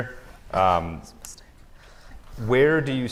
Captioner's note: whispering